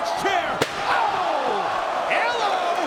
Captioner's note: spectators exclaiming